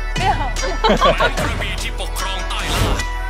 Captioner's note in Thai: เสียงหัวเราะ